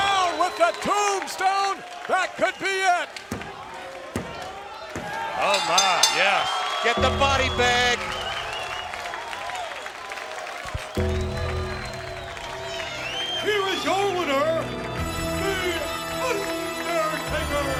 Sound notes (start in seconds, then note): 5.4 bell rings; 9.1 crowd cheers; 9.1 gong rings; 17.5 funeral music plays